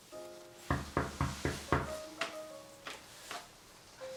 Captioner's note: door knocking; jazz music